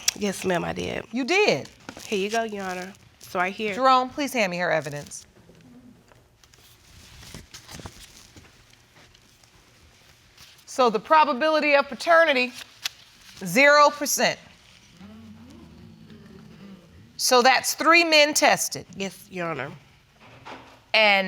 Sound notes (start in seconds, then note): 15.0 audience murmuring